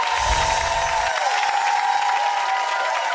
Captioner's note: applause